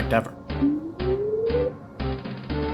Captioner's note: bwooooooooop!~